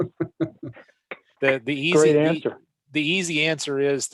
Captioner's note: chuckles